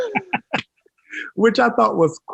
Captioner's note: laughing